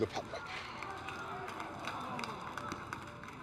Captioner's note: crowd mutters dismay